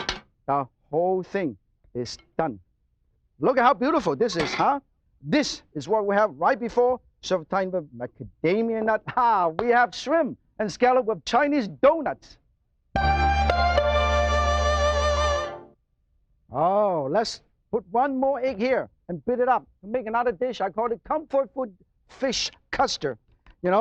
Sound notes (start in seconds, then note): 9.1 laughs; 12.9 mandolin music